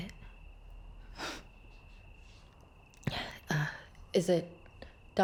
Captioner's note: Rachel scoffs